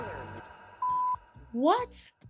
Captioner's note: beep